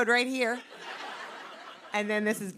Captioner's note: laughter